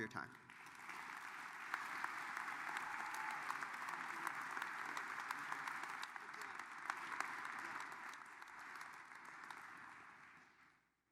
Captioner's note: applause